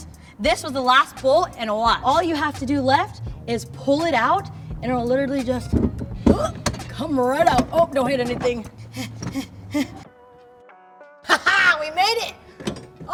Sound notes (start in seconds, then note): 6.0 gasps; 8.5 puffs